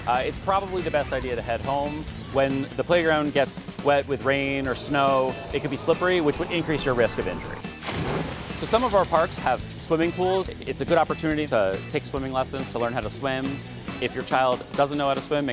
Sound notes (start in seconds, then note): 6.7 water splashing